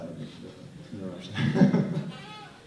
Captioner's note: laughter